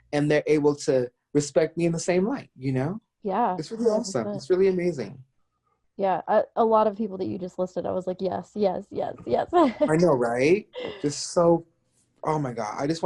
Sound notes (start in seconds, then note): 9.6 chuckles